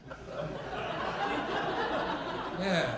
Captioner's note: audience laughing